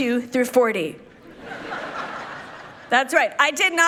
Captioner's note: people laughing